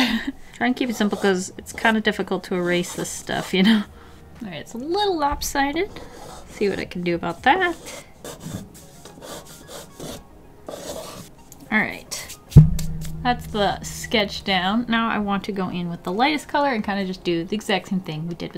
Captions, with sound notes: Try and keep it simple because it's kind of difficult to erase this stuff, you know? Alright, it's a little lopsided, see what I can do about that. *calming scraping noises* Alright, that's the sketch down. Now, I want to go in with the lightest color and kind of just do the exact same thing we did with